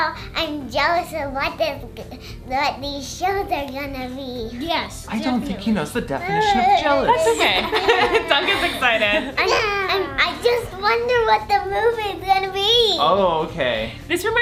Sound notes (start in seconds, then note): 6.2 laughing